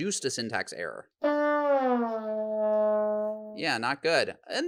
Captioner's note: horn blows